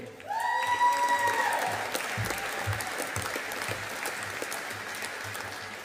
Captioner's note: audience applauding